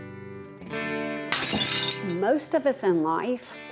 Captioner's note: plate shattering